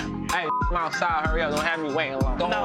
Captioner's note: beeps